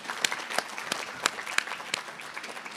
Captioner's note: applause